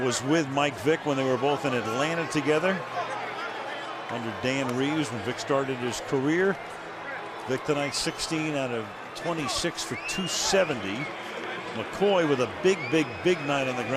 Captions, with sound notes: McCoy with a big, big, big night on the ground, 149. Jackson, 210 yards receiving. And the Eagles were in prime position. [pa announcement]